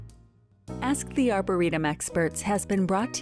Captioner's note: voiceover